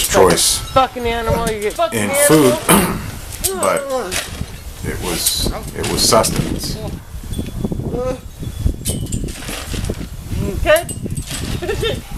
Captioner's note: woman yelling